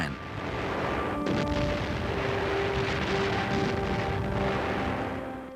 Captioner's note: bombs blasting